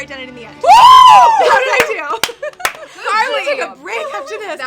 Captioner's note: cheering and clapping